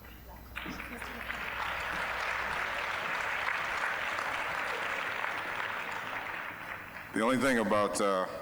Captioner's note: applause